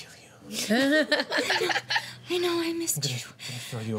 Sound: laughter

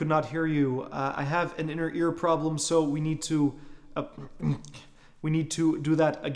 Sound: clears throat

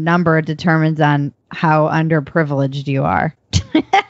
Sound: laughs

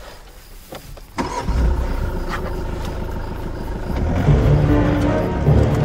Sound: car engine growls

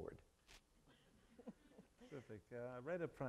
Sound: audience chuckling

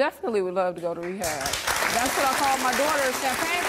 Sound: audience applauds

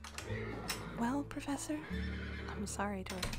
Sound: horse neighs, footsteps on wood

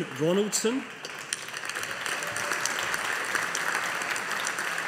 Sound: audience applauding

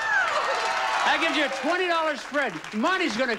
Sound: audience applauding

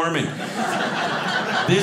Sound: audience laughing

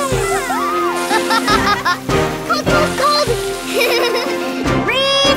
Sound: laughing

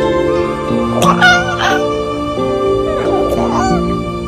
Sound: meow

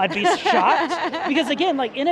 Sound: laughing amusingly

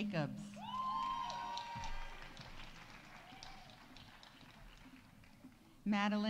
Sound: audience cheering; audience applauding

